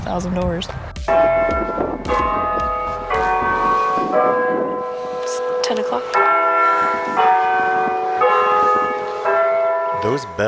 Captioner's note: church Bells